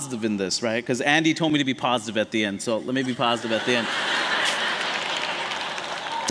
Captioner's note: laughter